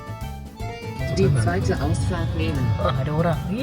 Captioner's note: speaking German